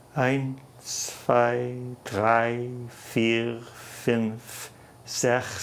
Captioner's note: counting in foreign language